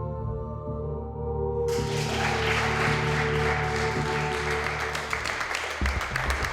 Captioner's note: applause